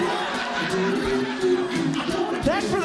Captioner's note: audience Laughing